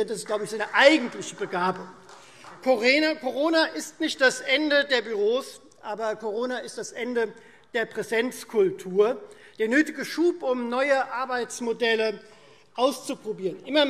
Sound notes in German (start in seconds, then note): 2.3 Vereinzelter Beifall Freie Demokraten